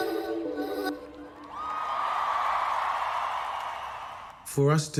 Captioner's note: crowd cheering